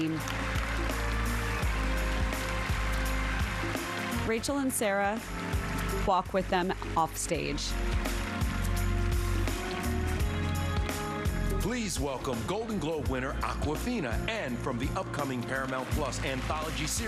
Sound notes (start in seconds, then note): 4.7 applause